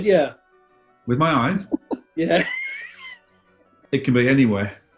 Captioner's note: laughing